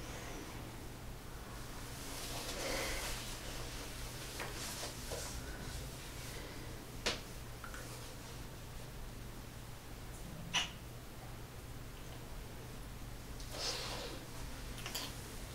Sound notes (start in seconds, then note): 10.5 kiss